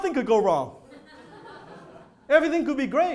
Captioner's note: audience laughter